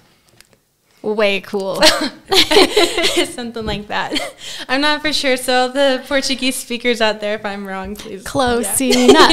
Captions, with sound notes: way cool. (Laughs) something like that. i'm not for sure so all the portuguese speakers out there if i'm wrong please… close enough!